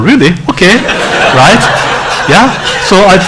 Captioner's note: laughing